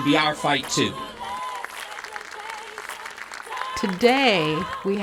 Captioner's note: clapping